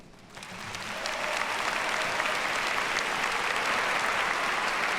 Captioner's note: audience applauds